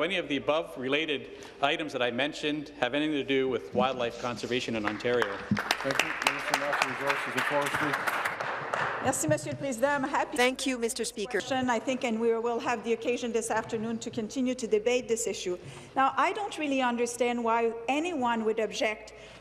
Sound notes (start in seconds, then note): 8.3 applause; 12.9 speaking in French